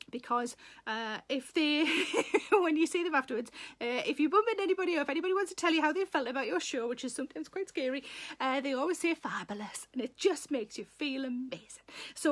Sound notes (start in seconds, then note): 1.8 Sarah laughs; 9.5 Welsh accent